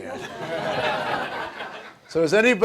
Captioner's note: audience laughs